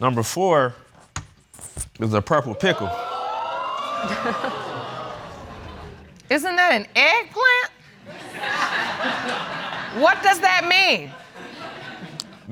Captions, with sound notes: Number four is the purple pickle. (AUDIENCE EXCLAIMS) Isn't that an eggplant? (AUDIENCE LAUGHING) What does that mean?